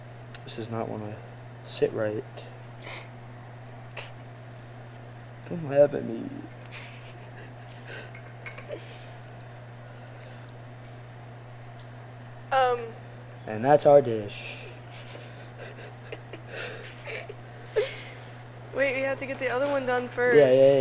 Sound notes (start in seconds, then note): 3.0 laughs; 14.7 both laugh